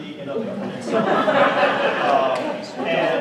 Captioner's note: laughter